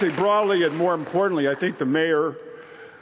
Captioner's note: applause